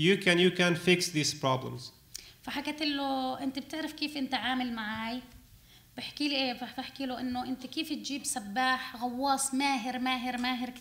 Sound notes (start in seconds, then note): 2.4 speaking arabic